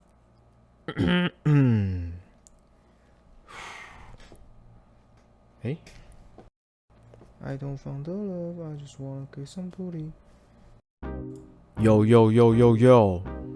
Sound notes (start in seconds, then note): 0.9 cough